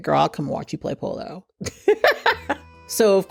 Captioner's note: laughs